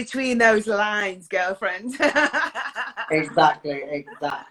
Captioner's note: laughs